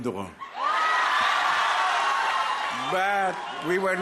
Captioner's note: crowd cheering